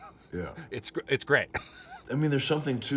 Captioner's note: laughing